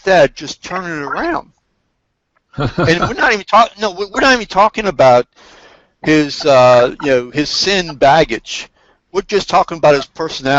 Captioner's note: laughs